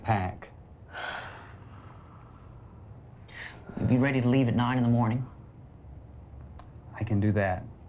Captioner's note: sighs